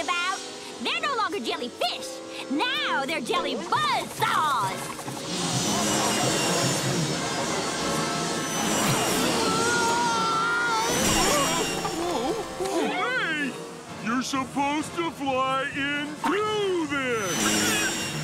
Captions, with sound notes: They're no longer jellyfish, now they're jelly buzz saws! [screaming] Oh, hey! You're supposed to fly into this!